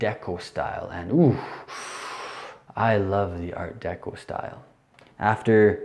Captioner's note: inhales loudly